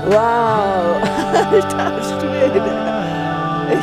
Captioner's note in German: lacht